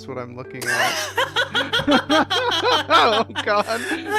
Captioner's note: laughing